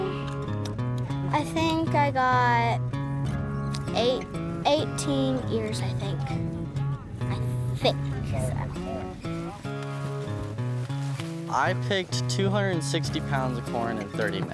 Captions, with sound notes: (clicking sounds) I think I got 18 ears, I think. I think so. (distant chatter) (corn rustling)